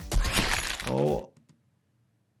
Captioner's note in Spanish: disparos de armas